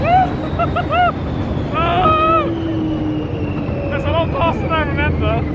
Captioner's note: laughing